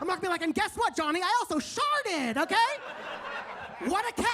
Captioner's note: audience laughs